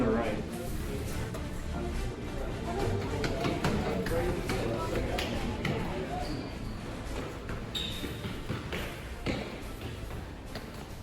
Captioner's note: epic Stair Climbing Sounds